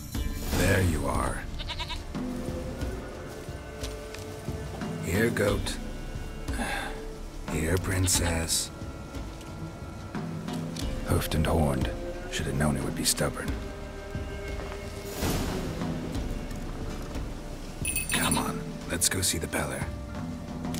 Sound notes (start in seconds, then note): 7.0 frustated sigh; 17.8 rings bell